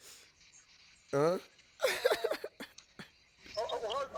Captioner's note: laughs